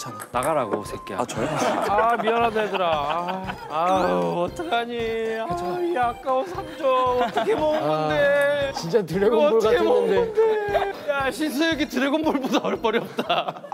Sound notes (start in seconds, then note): 3.7 Celebrity Team moans